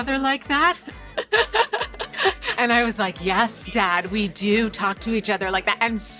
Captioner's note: laughing